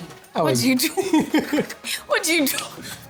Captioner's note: laughs